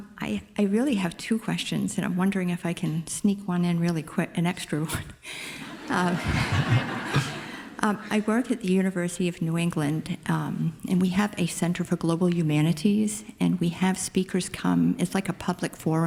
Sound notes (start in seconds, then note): 5.6 audience laughing